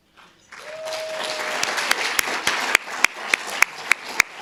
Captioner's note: audience applauding